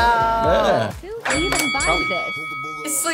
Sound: bell rings

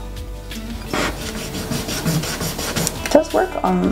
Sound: eraser rubbing

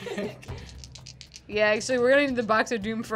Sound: dice rattle

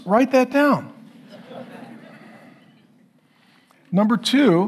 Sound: congregation laughing

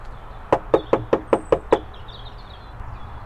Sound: knocking

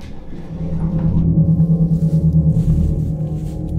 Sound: eerie pulsing noises

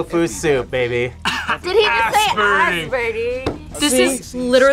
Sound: laughs

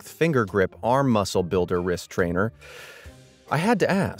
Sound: inhales deeply

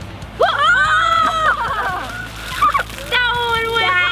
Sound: screams

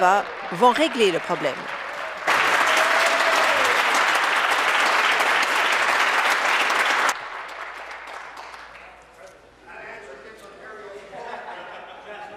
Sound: applause

